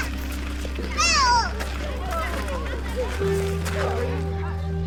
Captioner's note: child squealing